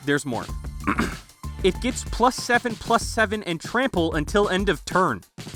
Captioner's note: clears throat